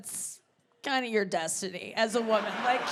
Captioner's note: audience laughing; audience laughs